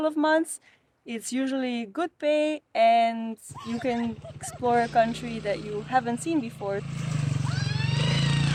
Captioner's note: screams